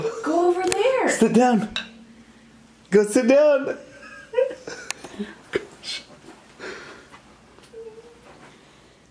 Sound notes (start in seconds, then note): 3.9 laughing